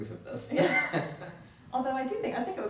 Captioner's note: laughs